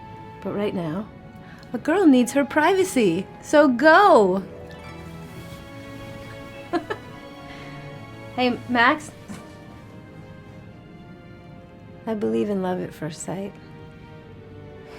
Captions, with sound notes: But right now, a girl needs her privacy. So, go! (gentle music) (Sarra chuckles) Hey, Max. I believe in love at first sight.